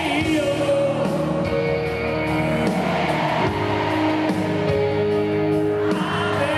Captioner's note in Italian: Applauso